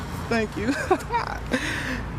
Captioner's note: laughs